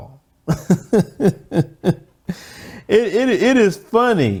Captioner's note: laughs